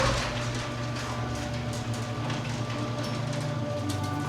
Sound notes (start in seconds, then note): 0.0 garage opening